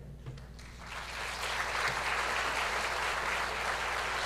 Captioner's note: applause